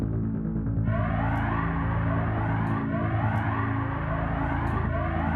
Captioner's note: tense music; alarm sounding